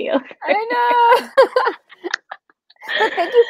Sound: laughing

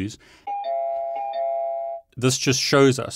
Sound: doorbell rings

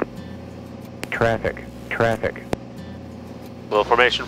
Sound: electronic Voice

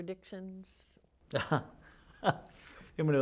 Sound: laughter

